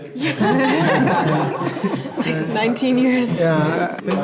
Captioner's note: everyone laughs loudly